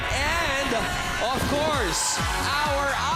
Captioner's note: cheering